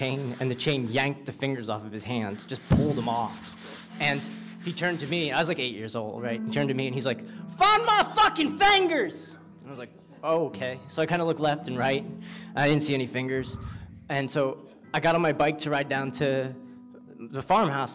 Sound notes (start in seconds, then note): 7.7 in southern accent